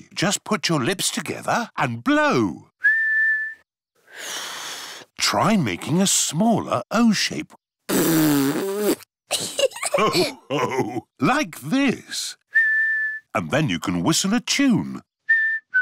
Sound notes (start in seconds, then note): 2.8 whistles; 2.8 failed whistle; 7.9 blows raspberry; 9.3 laughter; 12.5 whistles; 15.2 whistles a tune